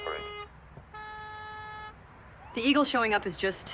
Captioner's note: car horns honking